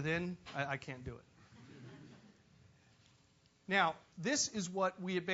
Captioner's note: laugh